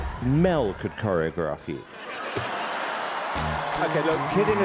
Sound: laughter

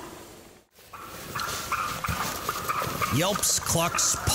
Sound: turkeys gobbling; leaves rustling

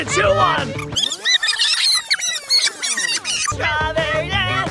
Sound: footage squeaking

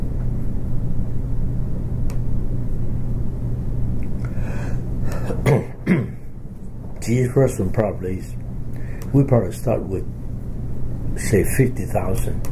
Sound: clears throat

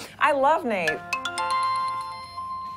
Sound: chimes

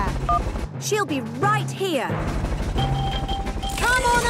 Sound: distant helicopter noise; phone beeps

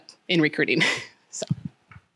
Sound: chuckles

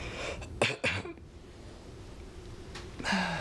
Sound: coughing

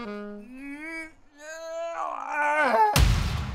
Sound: groaning

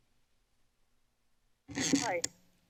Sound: silence; mic noise

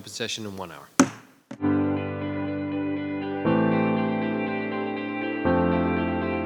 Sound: gavel banging; light music

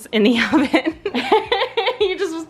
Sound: laughing

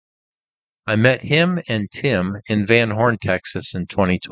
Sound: none

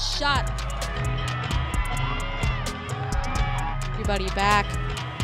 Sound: crowd cheering

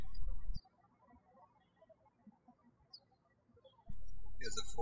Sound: birds chirping

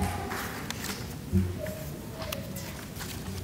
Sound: none

